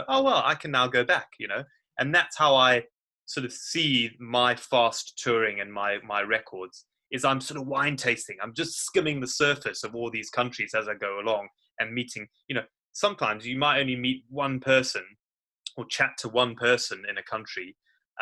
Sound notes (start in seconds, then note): none